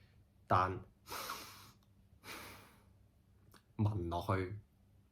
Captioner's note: sniff